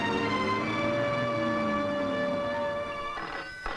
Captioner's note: Phone rings